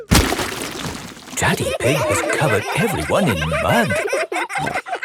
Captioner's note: all laughing